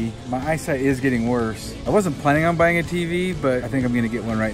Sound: none

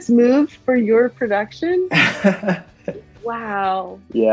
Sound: laughs

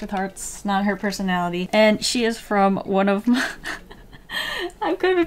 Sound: laughs

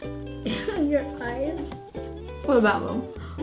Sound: laughs

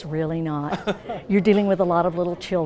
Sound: laughing

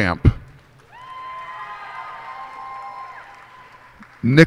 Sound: cheers and applause

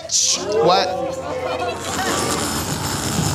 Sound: crowd gasping; zipper unzipping

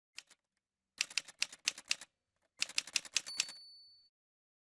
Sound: typewriter sounds

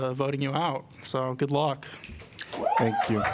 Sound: applause

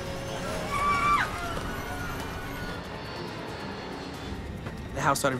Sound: quiet dramatic music; passengers scream

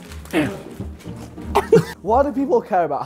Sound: Simon and Ethan laughing

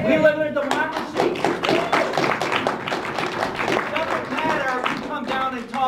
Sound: applause

